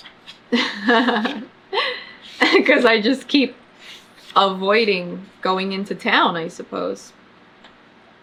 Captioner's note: laughs